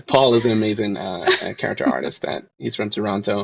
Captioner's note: laughs